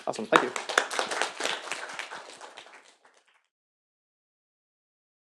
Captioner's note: applause